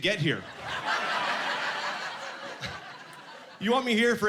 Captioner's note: laughing